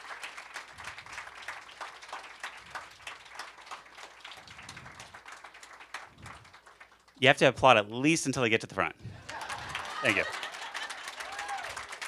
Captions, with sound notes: You have to applaud at least until they get to the front. [LAUGHTER AND APPLAUSE] Thank you.